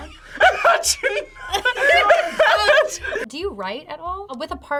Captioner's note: laughs